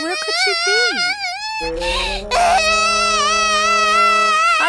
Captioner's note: Crying